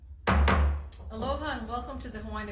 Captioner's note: gavel banging